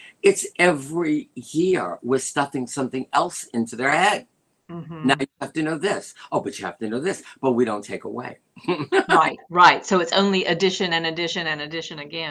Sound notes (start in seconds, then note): 8.6 laughter